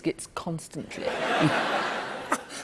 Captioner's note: laughter